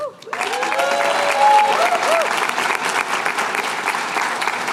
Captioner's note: cheers and applause